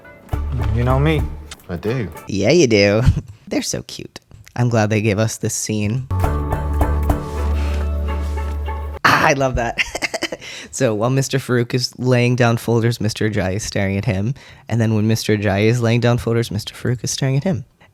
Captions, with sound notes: Yeah, ya do! They're so cute. I'm glad they gave us this scene. I love that. [laugh] So while Mr. Farouk is laying down folders, Mr. Ajayi is staring at him. And then when Mr. Ajayi is laying down folders, Mr. Farouk is staring at him.